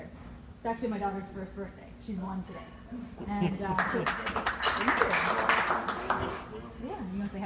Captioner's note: applause